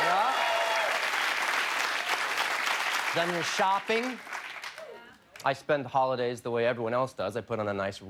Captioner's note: cheers and applause